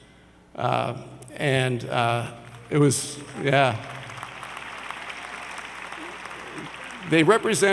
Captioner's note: audience applauds